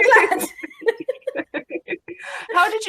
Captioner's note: laughing